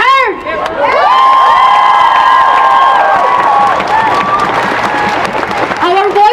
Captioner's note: cheering and applause